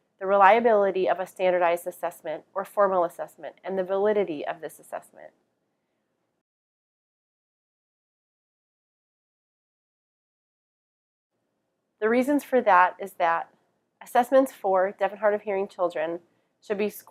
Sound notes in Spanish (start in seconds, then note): 5.2 Silencio